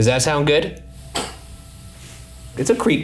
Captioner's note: object thuds